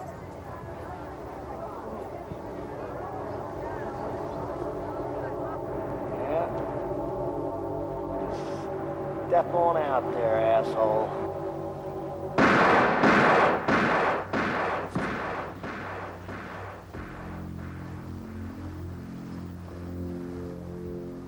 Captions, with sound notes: Yeah. Step on out there, asshole. (gun firing) (dramatic synth music)